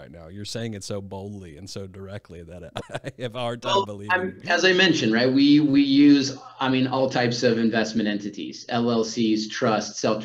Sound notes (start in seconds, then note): 2.0 chuckles